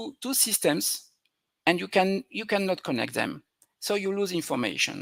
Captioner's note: none